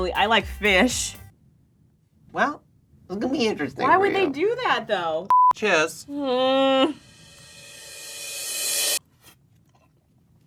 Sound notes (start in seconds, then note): 5.3 electronic bleeps; 6.1 groans